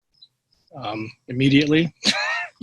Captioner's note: laughs